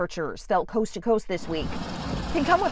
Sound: truck rumbling

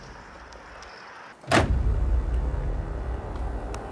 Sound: trunk slammed

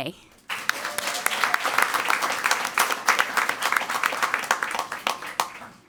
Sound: crowd cheering and clapping

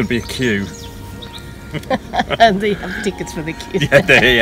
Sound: laughing

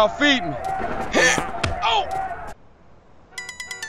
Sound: tense jump and fart

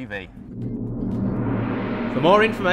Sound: gong Chiming

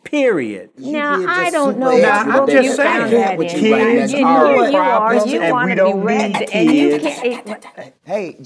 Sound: arguing

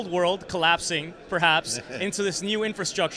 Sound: chuckles

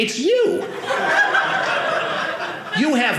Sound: audience laughing

